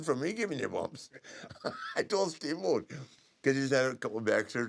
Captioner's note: laugh